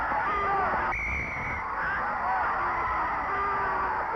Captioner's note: referee whistling; crowd booing